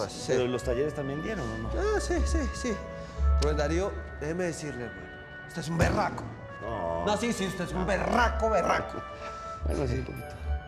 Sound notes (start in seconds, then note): none